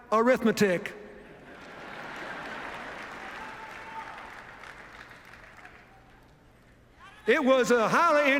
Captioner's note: laughter, applause